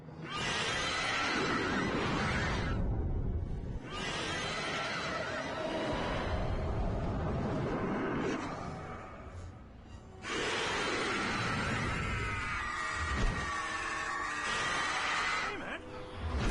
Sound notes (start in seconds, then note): 0.2 horrific screeching; 10.2 horrific screeching